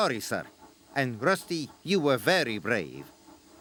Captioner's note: chuffing